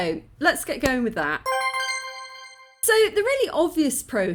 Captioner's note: coin collection ping